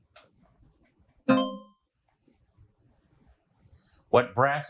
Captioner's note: bell clangs